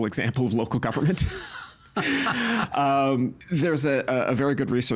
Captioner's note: laughing